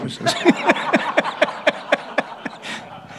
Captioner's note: laughter